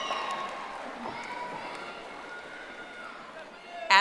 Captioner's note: audience applauding